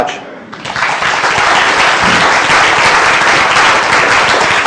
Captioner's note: applause